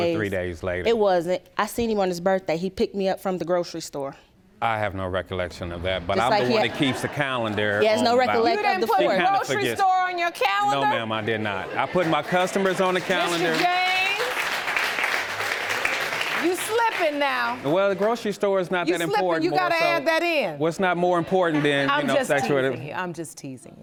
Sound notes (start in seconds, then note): 3.9 audience laughs; 11.7 audience applauds